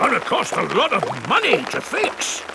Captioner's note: none